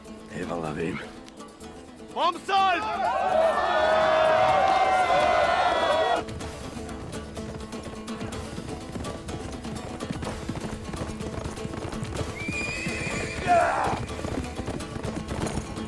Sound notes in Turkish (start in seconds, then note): 2.3 Bağrışma sesleri; 6.7 Müzik - Hareketli; 12.3 At kişneme sesi